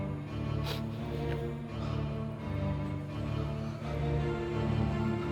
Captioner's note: Karan Cries